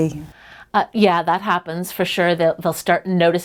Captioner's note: voiceover